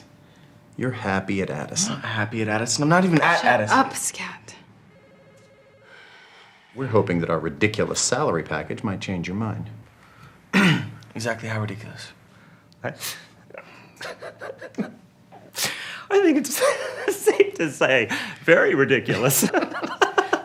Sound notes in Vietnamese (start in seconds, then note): 10.5 e hèm; 13.9 cười; 19.8 cười